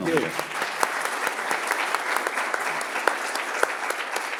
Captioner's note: audience applauds